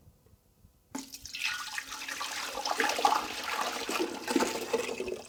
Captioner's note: solution sloshing